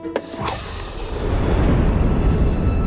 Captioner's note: whoosh in slow motion